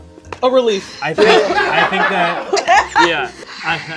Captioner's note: people laughing